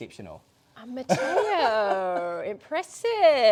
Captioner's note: laughing